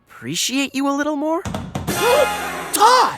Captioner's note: gasps